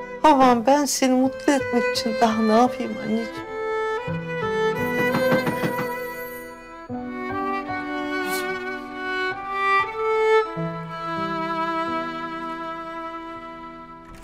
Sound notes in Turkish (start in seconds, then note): 4.7 Kapı çalma sesi; 4.7 Kapı zili sesi; 9.2 Müzik - Duygusal